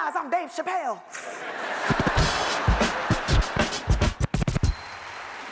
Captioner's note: audience laughs